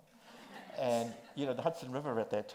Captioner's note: audience laughs